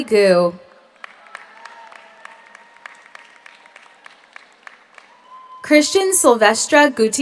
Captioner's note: audience applauds; audience cheers